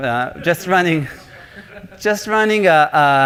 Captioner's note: laughter